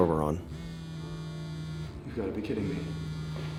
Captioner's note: phone vibrating